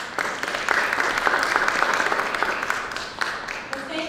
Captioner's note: applause